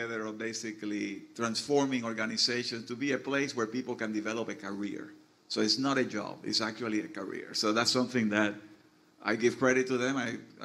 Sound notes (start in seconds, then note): none